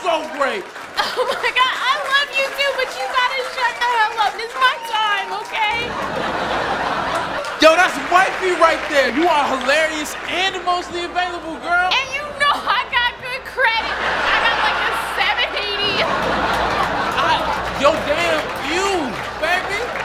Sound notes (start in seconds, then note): 5.4 audience laughing; 13.4 audience laughing